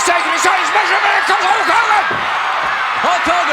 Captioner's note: audience cheering